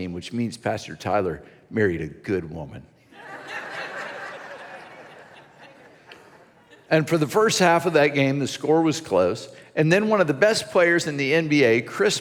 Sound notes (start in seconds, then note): 3.1 congregation laughs